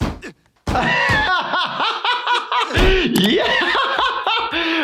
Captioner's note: laughing